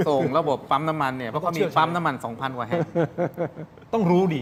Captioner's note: laughs